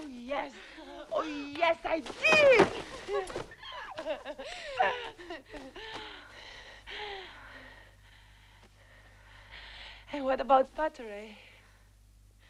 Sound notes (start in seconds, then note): 3.6 both laughing; 6.8 both breathing heavily